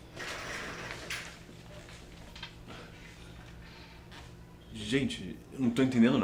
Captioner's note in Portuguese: barulho de algo caindo